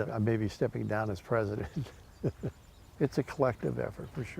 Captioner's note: laughing